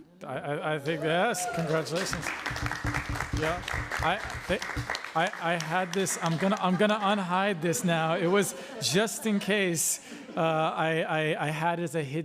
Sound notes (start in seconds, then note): 4.2 applause